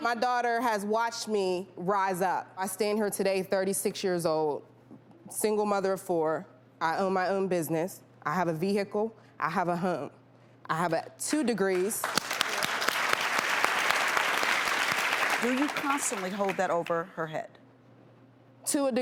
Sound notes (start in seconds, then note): 12.0 crowd Applauding